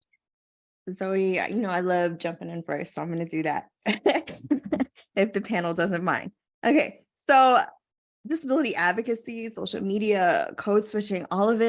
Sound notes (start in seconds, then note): 4.3 laugh